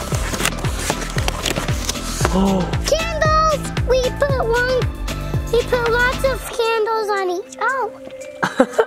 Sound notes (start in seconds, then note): 2.2 gasps; 8.4 laughs